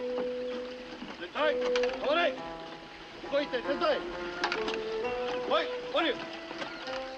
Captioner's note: speaking japanese